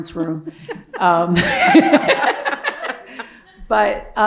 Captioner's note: laughter